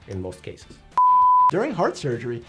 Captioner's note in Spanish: suena un pitido